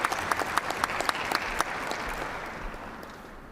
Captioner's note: applause